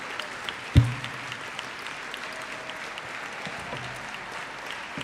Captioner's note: audience cheers and applauds